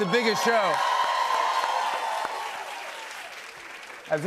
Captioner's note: cheers and applause